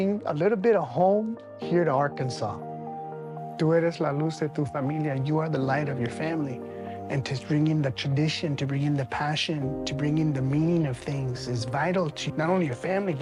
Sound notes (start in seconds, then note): 3.6 speaking Spanish